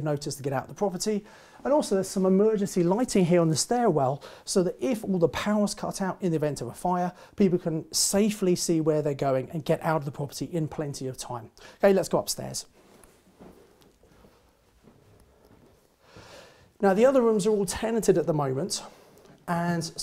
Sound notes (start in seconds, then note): 14.0 footsteps thumping